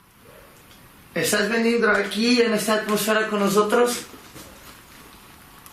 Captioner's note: speaking in foreign language